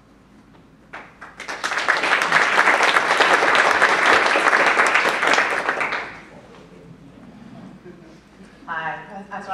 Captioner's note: applause